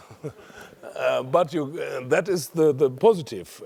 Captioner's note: laugh